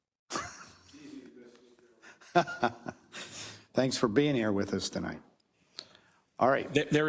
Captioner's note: laugh